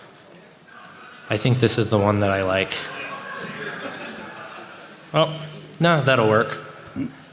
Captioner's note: laughter